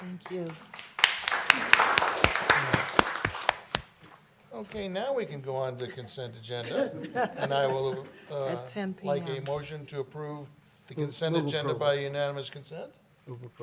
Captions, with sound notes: Thank you. (applause) Okay, now we can go on to Consent Agenda (laughter). And I will, uh, like a motion to approve the Consent Agenda by unanimous consent.